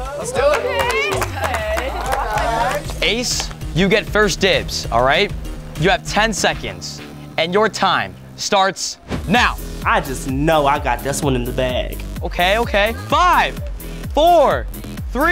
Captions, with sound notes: - Let's do it. (housemates clapping) - Okay. - Okay. - Ace, you get first dibs, all ? You have 10 seconds and your time starts now. - I just know I got this one in. - Okay, okay. Five. Four.